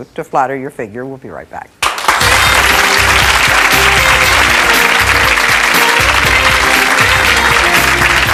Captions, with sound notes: to flatter your figure. We'll be right back. (audience clapping) (jazzy music)